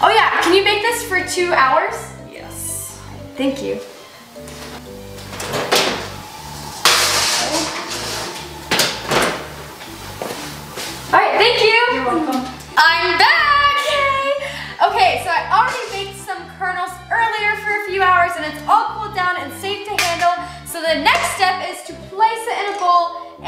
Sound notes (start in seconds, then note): 4.4 pans banging